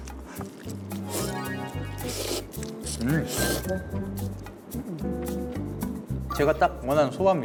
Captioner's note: slurp slurp, so tasty soba